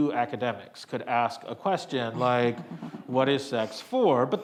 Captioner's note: panelist chuckles